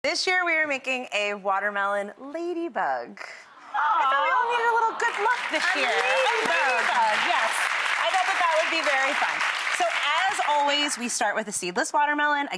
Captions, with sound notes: This year we are making a watermelon ladybug. (audience awing) Aw! I thought we all needed a little good luck this year. (audience applauding) A ladybug! A lady bug, yes. I thought that that would be very fun. So as always we start with a seedless watermelon.